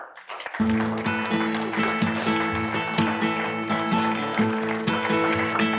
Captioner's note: audience applauding; upbeat music